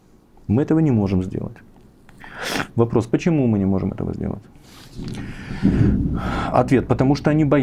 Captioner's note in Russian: фыркает